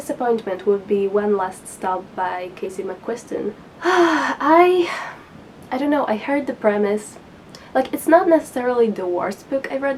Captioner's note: big sigh